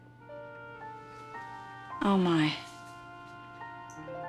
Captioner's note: none